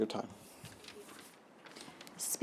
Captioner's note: paper rustling